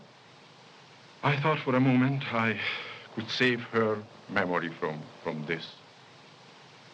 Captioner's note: sigh